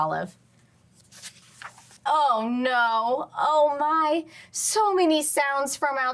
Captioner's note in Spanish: crujido de página